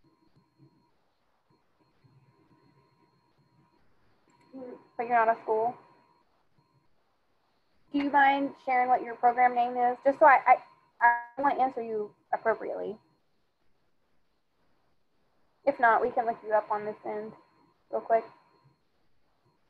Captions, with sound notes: (student speaking faintly) But you're on a school? Do you mind sharing what your program name is? Just so I wanna answer you appropriately. If not, we can look you up on this end real quick.